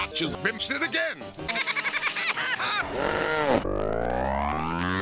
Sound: laughs high-pitched in reverse, then slower

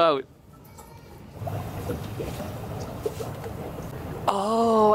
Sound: underwater bubble sounds

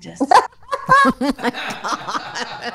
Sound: laughing

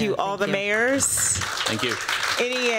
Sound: applause

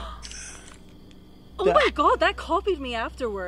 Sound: gasping; Necrophonic app gasping

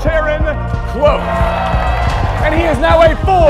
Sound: crowd cheering

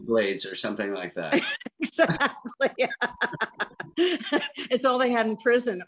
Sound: laughs

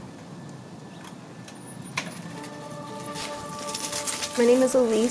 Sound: door opens, dog collar

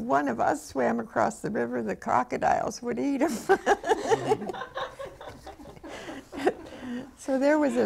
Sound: laughs

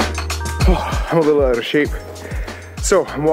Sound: sigh

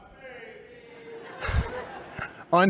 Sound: laughter

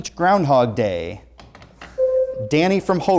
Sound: buzzer sounds

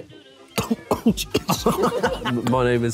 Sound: choking

